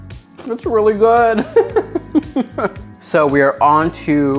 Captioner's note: laughing